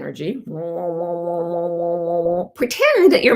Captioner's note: humming